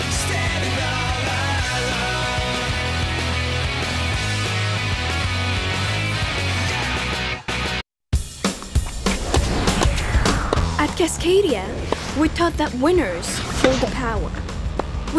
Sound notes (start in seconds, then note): 8.2 energetic music; 8.3 balls thwack